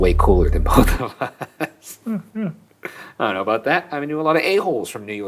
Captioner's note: chuckling